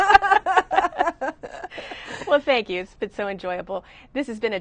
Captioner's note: laughter